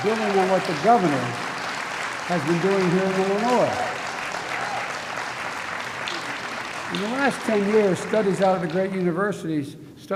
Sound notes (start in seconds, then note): 4.2 applause